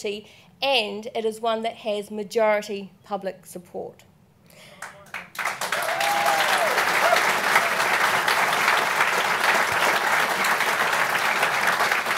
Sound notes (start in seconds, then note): 4.7 applause